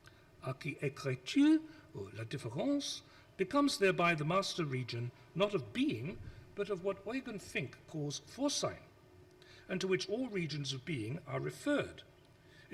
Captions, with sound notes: (speaks foreign language) becomes thereby the master region not of being but of what Eugen Fink calls foresight and to which all regions of being are referred.